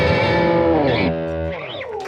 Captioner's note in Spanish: aplauso